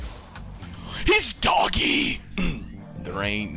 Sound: raging

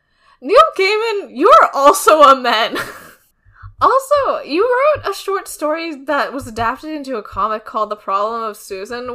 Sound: laughs

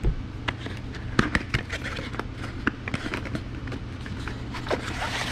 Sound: cardoard opening noises

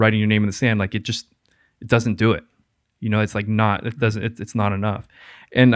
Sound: none

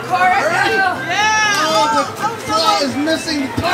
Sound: cheering

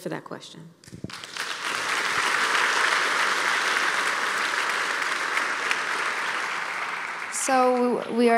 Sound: applause

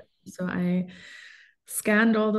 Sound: inhales deeply

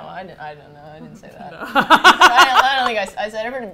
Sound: both laugh

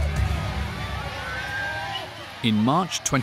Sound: people screaming

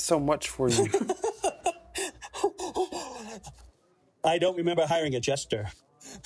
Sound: laughs

